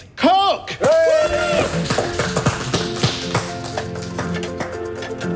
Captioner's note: everyone cheers